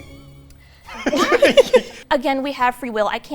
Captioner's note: laughing